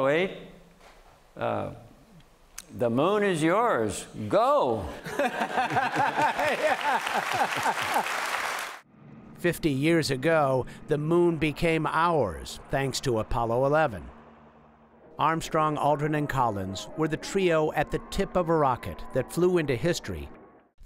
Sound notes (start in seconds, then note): 5.0 laughter; 7.5 cheering and applause